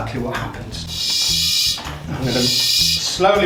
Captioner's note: air pumping